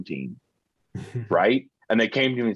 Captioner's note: chuckling